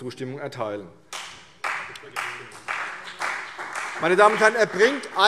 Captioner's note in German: Beifall CDU und BÜNDNIS 90/DIE GRÜNEN